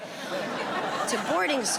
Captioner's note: audience laughing